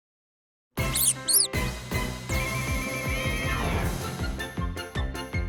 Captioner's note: squeaks